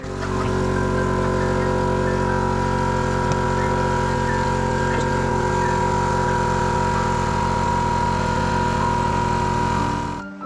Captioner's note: compressor sound r mini